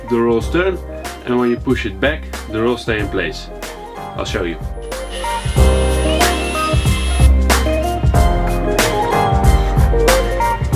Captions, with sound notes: the rolls turn and when you push it back the rolls stay in place. I'll show you. (saw grinding)